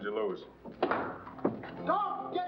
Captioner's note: doors bursting open